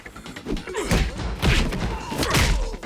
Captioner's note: grunts